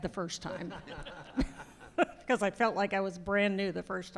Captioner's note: laughter